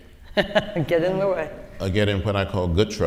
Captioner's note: laughs